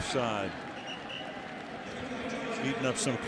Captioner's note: whistle; pa announcement